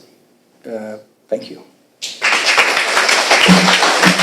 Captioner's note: applauding